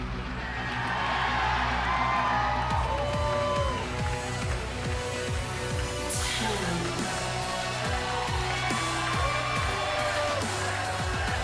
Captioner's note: cheers and applause